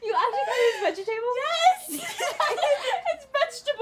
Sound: laughter

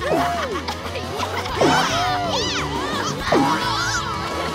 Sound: yelling

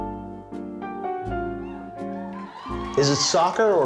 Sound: cheers

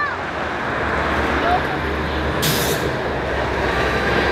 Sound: loud traffic

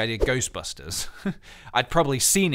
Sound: laughs

